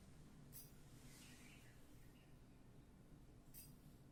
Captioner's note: bird singing